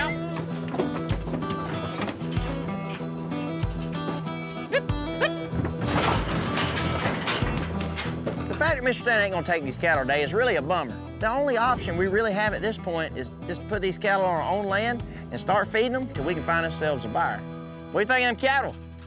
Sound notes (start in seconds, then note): 1.7 hoof beats; 7.4 hoof beats